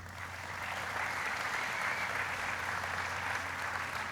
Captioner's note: applauding